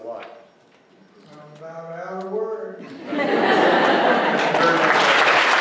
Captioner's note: laughter